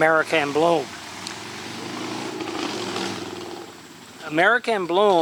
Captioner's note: distant vehicle engine revving